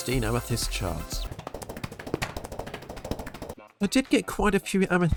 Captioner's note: running sounds